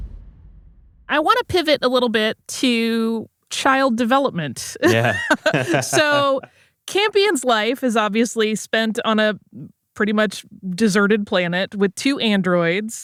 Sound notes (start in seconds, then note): 4.8 laughs